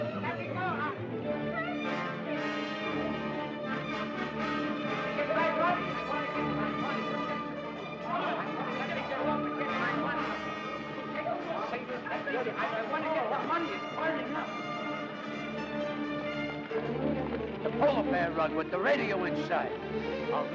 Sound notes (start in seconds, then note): 2.7 suspenseful music; 8.0 chattering & commotion; 8.0 suspenseful music; 15.0 suspenseful music